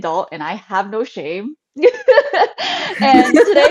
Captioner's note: laughs